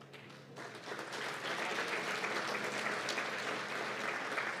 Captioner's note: applause